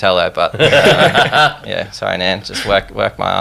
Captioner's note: laughing